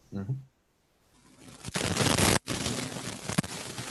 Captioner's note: audio static